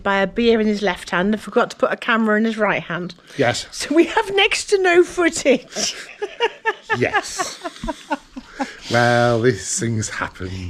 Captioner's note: laughter